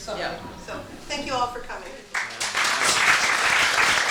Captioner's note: applause